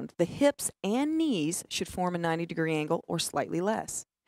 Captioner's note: none